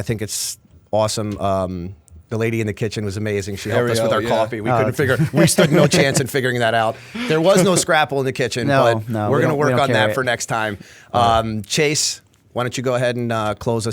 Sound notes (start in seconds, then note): 6.9 chuckle